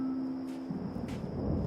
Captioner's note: thunder rumbling